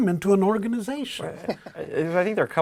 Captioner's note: laugh